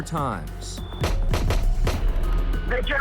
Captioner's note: gunshots